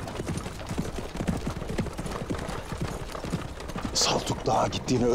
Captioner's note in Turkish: Kağnı Sesleri